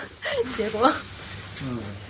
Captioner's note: laughs